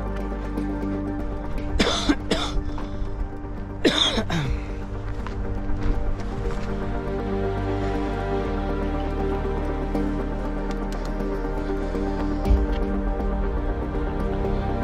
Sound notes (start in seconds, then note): 2.0 coughing deeply